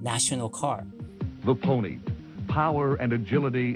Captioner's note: soundbite of archived recording